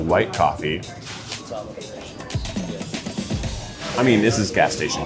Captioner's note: gentle upbeat music; people chattering